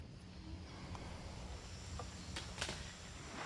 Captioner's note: bugs whistling